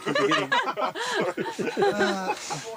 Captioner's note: both laughing